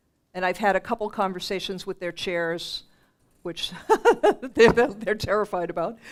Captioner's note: laughs